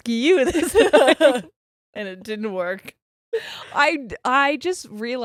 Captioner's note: both giggles